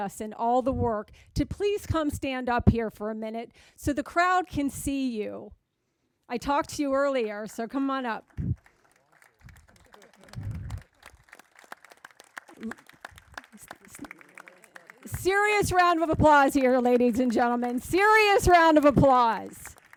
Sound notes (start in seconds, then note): 8.7 crowd applauding